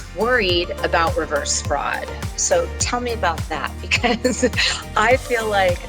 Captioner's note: chuckles